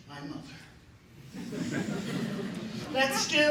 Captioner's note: laughter